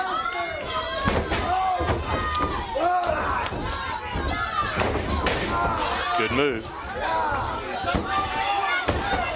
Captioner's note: crowd cheering; crowd chatter